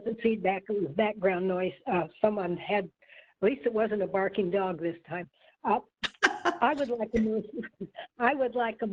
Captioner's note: laughter